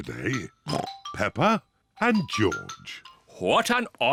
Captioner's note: oinks